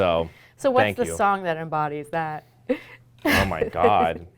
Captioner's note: laughing